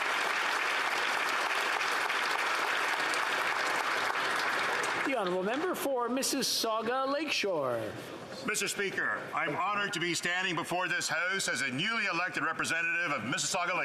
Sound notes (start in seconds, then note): 0.0 applause